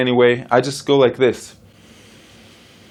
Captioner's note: inhales slowly